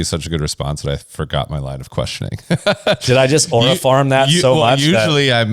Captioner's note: laughs